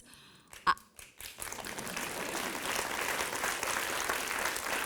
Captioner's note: audience applauding